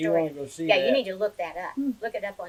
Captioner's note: laughs